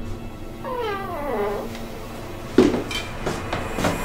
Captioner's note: door creaking